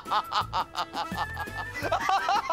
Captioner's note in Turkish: kahkaha